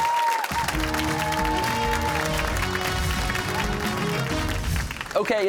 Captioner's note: cheers and applause